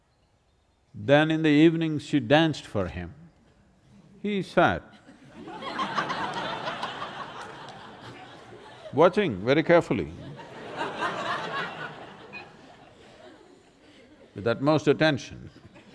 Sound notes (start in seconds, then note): 6.3 laughter